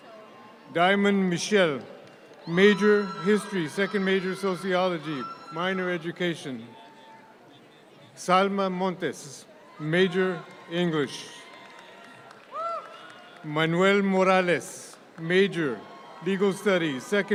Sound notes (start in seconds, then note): 2.4 audience cheer; 10.2 audience claps